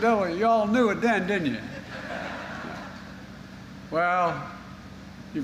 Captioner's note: laughter